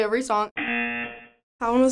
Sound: buzzer

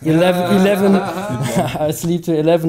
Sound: laughing

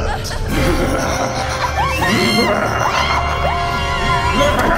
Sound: evil laugh

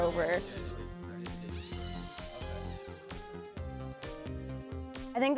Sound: electric rover motor

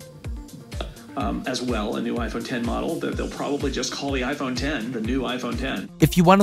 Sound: podcast audio

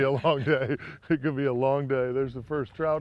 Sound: laughter

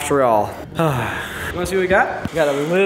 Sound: huh

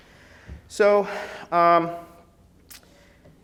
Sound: sighs

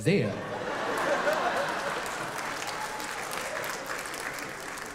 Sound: audience clapping

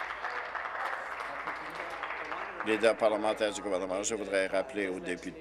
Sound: applause

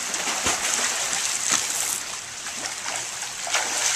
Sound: swimming sounds

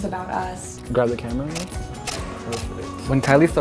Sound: camera clicking

